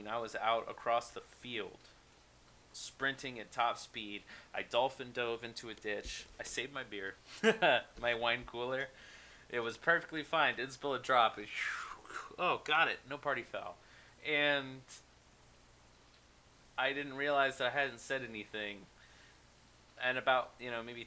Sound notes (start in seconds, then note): 7.3 laughs